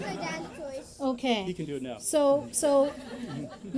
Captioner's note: laughter